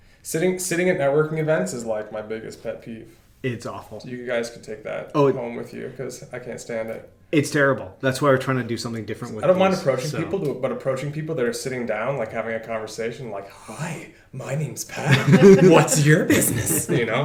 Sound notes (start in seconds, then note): 13.5 creepy voice